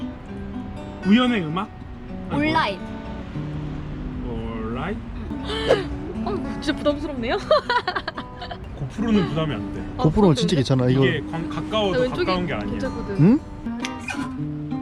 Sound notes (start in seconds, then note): 5.2 surprised